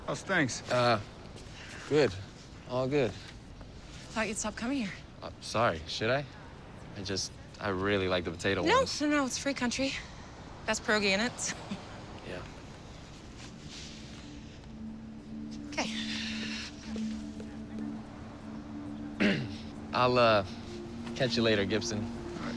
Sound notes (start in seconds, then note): 11.8 chuckles; 15.8 sighs; 19.1 clears throat